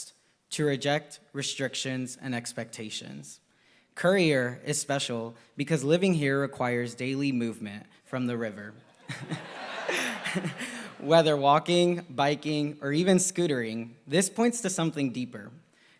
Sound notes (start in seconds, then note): 8.7 applause